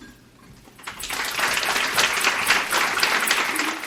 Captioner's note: clapping